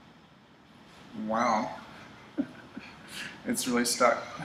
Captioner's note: chuckles